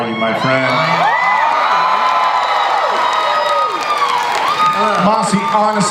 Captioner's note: audience cheers